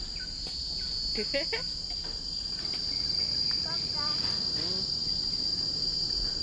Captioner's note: sharp chirping sounds of the cicadas